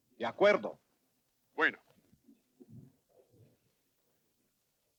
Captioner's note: chatter in Spanish